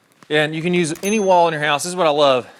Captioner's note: bell dings